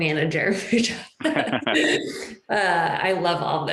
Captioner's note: laughs